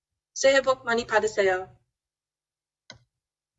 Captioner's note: speaks Korean